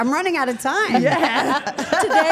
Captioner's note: Steph laughs